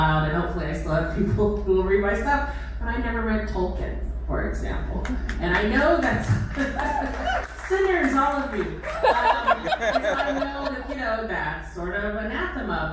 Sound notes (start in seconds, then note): 6.5 crowd applause; 8.8 crowd laughter